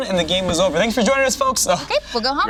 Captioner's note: laughs